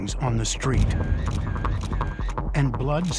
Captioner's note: camera shutter clicking